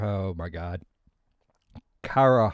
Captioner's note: long pause